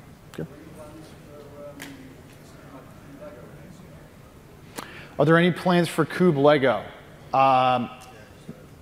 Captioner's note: off mic